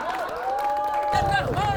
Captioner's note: laughter